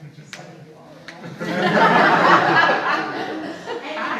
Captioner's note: audience laughs